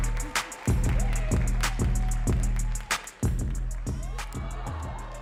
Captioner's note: audience cheering and clapping